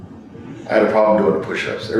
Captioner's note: laughs